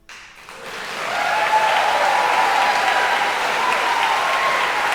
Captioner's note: audience cheering and applauding